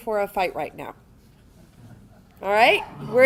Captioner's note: audience members softly chuckling